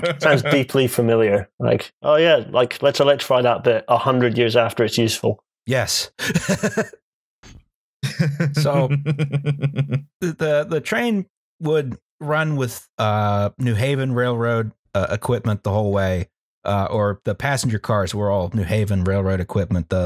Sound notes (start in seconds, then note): 6.1 laughs; 8.0 chuckles